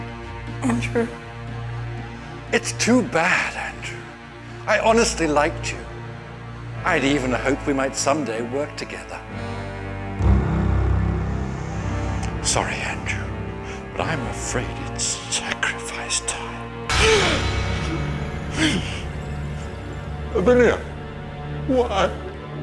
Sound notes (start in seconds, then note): 10.0 tense music; 17.7 Benderfax gasps